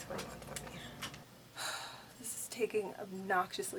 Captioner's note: deep sigh